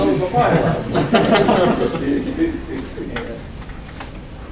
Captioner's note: laughing